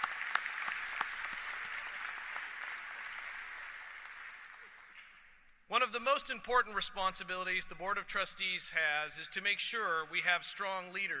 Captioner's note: applause